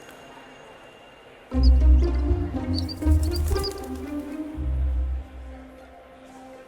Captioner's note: bird chirping